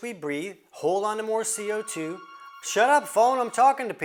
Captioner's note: phone rings